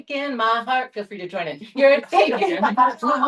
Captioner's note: laughter